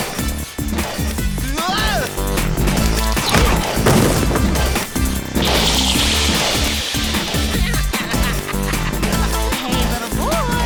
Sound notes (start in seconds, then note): 7.5 zapping; 8.0 laughter